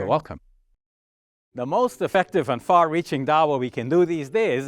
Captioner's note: speaking in Arabic